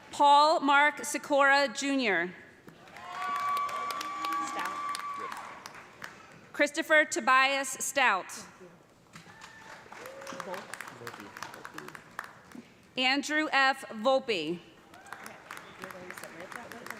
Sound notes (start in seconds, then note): 2.8 cheers and applause; 9.2 applause; 14.9 applause